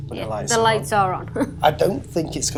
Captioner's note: laughs